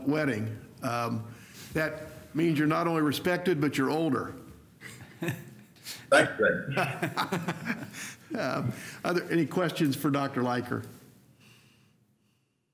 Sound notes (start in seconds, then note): 6.7 laughter